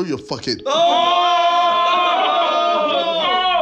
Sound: yelling

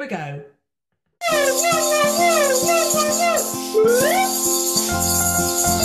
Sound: whooping and hollering; warm piano music

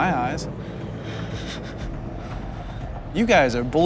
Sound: gasping

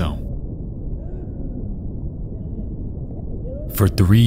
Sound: divers faintly shouting

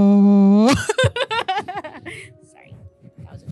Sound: laughs

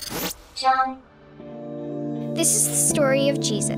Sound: electronic Voice

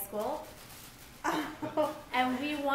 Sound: laughs

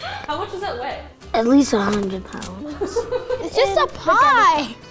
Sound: laughing

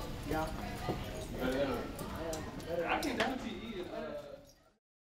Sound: indistinct conversation

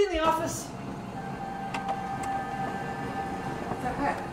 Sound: printer sound

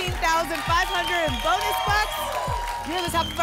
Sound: applause and cheering

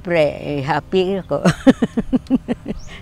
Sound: happily laughs

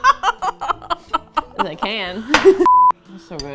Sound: laugh; laughs

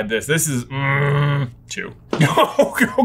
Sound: grumbles

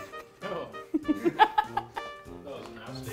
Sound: laughs

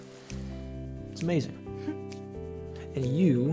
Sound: June chuckles

